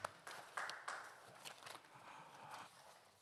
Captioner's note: audience Applauding